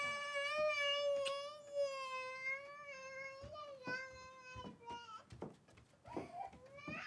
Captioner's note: crying